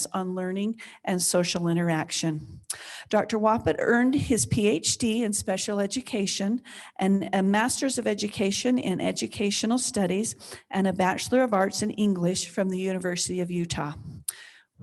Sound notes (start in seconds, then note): none